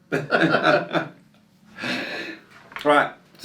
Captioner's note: laughing